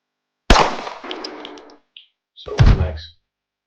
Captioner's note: gun Shooting; body Falling